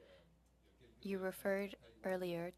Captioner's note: speaking French